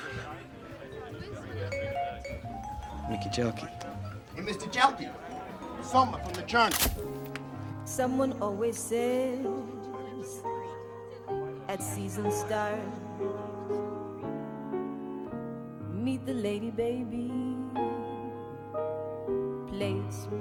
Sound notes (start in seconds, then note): 0.1 Mickey laughs; 6.6 camera snaps; 15.0 gentle music